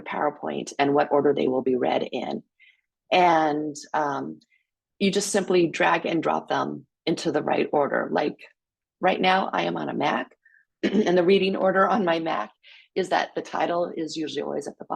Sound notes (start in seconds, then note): none